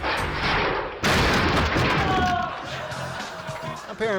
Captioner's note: cabinets clattering